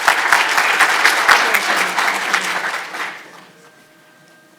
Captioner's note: audience applauding